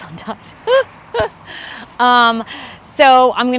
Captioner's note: chuckles